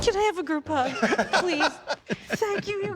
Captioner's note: laughter